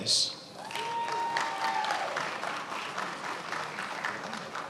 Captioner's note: attendees applauding